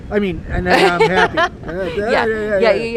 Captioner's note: laughs